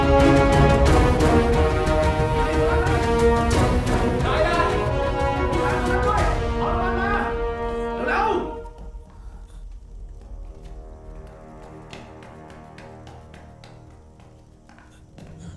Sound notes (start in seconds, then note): 4.2 Malay Language; 10.2 footsteps sound